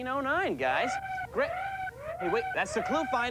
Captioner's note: siren